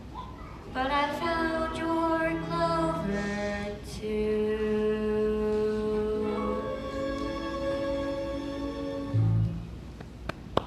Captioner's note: quietly; song ends; applause